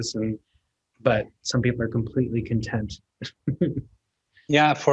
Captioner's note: chuckles